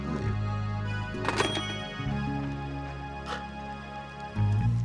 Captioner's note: phone clattering